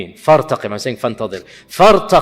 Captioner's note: Arabic